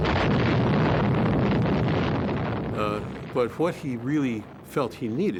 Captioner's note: explosion blasting